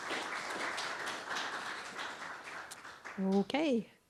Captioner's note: applause